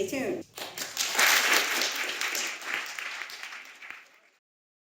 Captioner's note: audience clapping